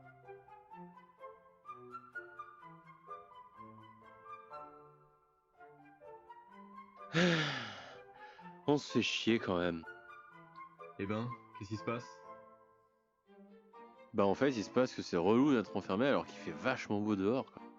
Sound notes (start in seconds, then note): 7.1 sigh